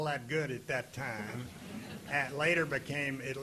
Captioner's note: audience laughing